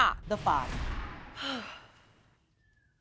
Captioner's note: exhales